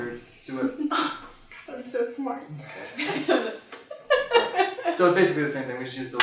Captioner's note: laughter